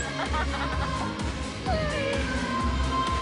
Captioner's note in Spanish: Risas